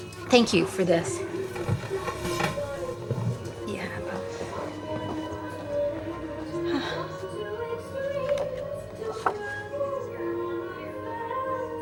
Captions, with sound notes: Thank you for this. Yeah. [sighs]